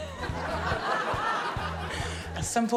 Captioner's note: chuckles; laughter